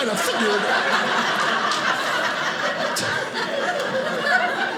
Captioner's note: audience laughing